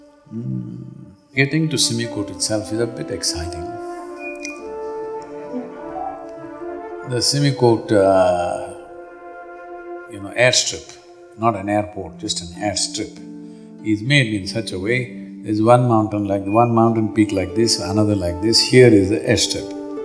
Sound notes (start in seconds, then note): 4.8 laughter